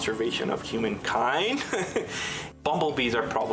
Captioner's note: laughs